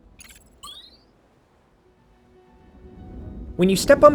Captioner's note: transition whooshes; electronic chime chirps